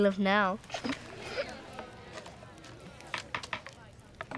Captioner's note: laughing